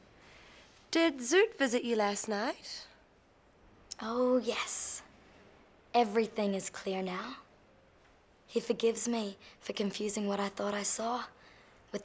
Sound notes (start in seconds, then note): none